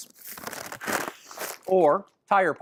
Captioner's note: breaths into bag